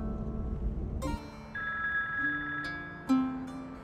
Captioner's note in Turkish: Telefon Çalıyor